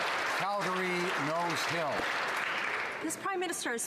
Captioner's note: some Applause